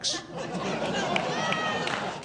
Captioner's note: audience laughing